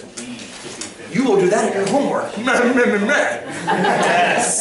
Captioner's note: brief laughter